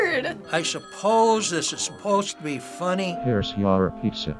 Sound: phone rings

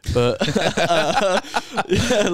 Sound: laughing

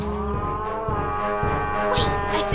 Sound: roar

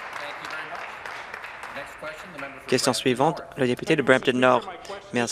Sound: applause

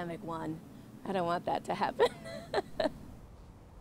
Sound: laughs

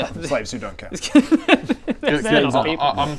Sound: morally-dubious laughter

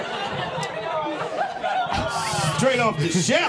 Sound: audience laughing

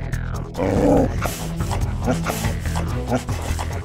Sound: dog growling; energetic music

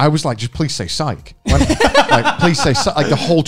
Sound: men laughing

